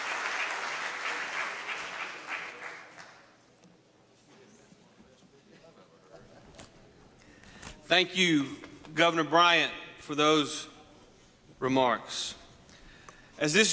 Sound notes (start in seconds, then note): 2.5 applause